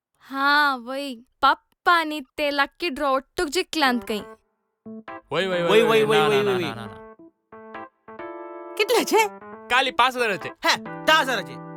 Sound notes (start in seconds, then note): none